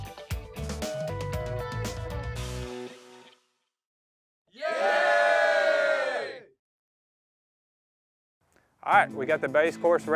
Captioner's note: crowd cheering